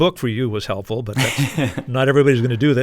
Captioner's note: laughter